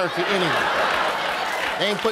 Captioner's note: audience laughing